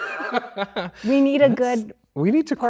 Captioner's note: Andrew laughs